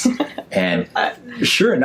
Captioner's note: laughs